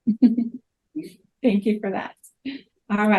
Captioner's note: laughs